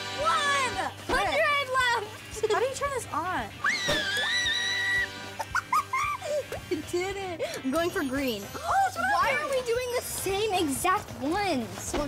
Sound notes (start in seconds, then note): 3.6 screaming